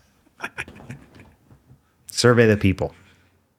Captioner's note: laughing